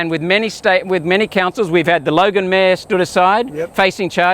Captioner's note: none